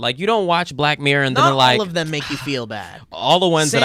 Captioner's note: exhales sharply